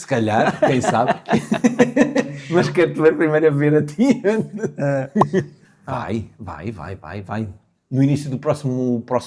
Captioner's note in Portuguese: risadas